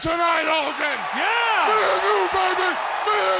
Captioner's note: audience cheers